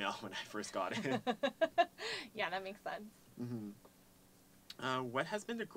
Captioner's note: laugh